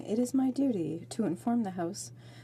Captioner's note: speaking French